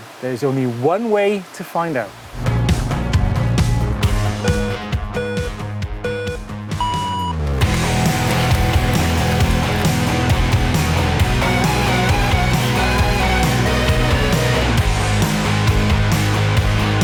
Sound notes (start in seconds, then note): 2.5 pumping music; 6.0 timer beeps; 7.6 rock music